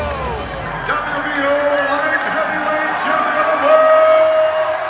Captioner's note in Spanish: hablando inglés